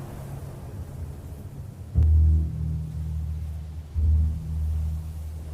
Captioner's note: wind whooshing; tense music